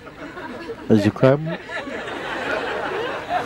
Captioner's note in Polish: śmiech